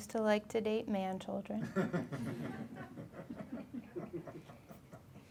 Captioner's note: laughing